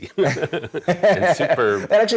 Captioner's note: both laughs